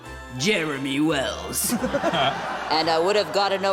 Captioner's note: laughter